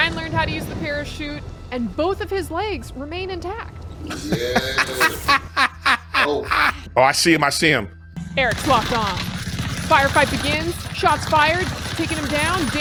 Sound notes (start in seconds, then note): 4.1 laughing; 8.5 bullets rattling